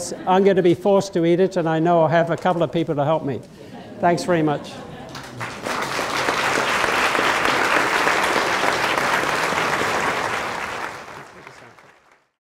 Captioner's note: applause